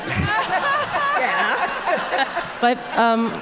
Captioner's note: everyone laughing